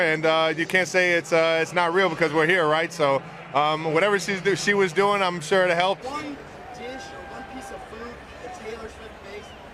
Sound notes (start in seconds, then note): 6.0 audience cheering